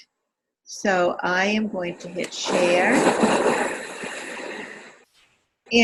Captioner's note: sound of ocean